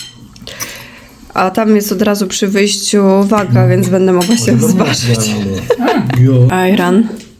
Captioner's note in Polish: śmiech